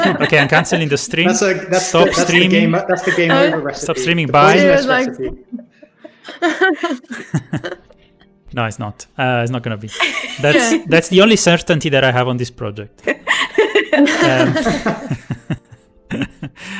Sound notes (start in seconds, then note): 5.2 laughter; 13.0 laughter